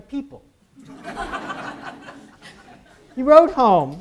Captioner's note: audience laughs